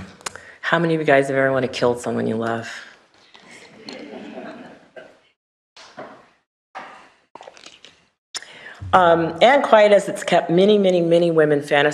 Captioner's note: laughter